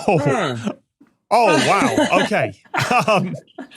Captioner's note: laughs; chuckles